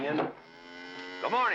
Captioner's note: cow moos